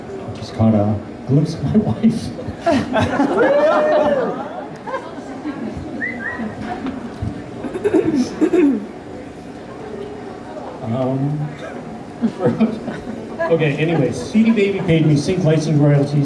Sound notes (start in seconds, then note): 2.6 laughter; 3.1 woooo!; 6.0 whistle; 7.7 throat clear; 12.2 laughing